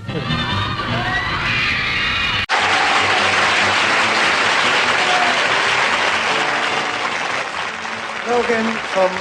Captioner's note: screams and applause